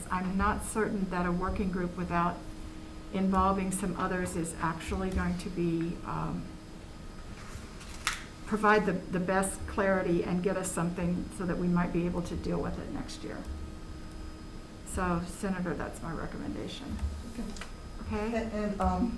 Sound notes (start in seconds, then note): none